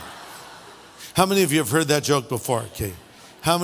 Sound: laughter

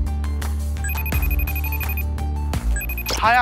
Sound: beeping

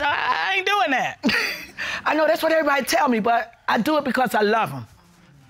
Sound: chuckles

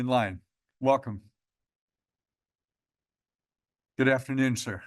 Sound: pause

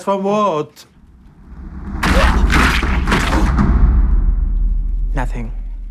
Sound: bodies squealch

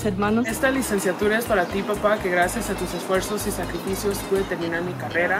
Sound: speaks in foreign language

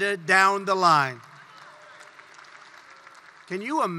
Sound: applause

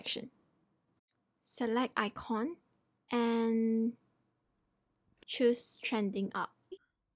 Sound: click

